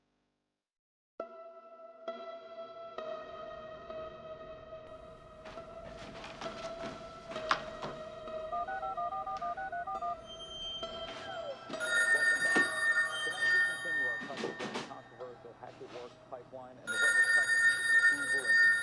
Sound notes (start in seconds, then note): 3.1 gentle suspenseful music; 9.2 phone dialing; 11.7 phone rings; 14.2 newscaster chattering